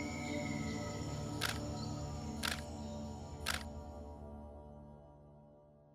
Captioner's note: camera shutter clicks